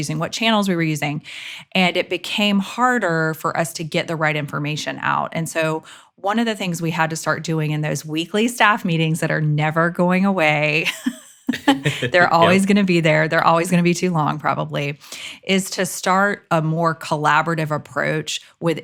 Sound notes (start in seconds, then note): 10.8 both laugh